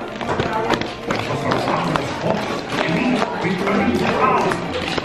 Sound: hands patting

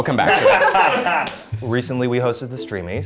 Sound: laughter

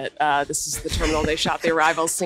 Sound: everyone laughing

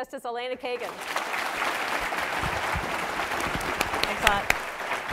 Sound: applause

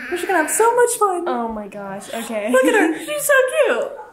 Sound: giggles

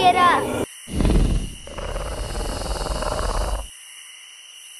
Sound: dino snorts; dino noise

